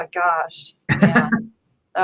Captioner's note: laughs